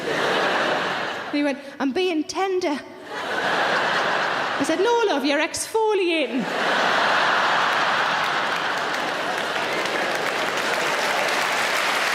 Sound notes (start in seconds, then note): 0.0 laughing; 3.2 laughing; 6.5 laughing; 8.9 audience applauding